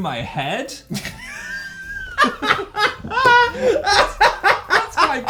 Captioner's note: laughs